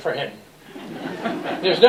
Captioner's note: laughter